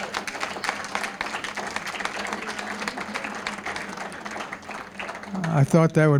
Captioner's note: applause